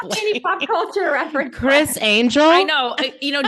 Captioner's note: laughing